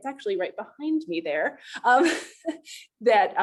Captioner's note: laughter